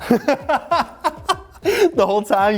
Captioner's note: laughing